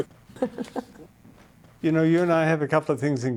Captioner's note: laughs